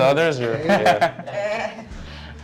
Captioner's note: chuckles